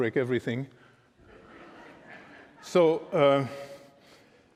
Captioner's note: laughter